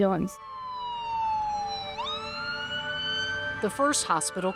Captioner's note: tense music; siren blaring